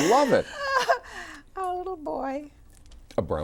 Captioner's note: both laugh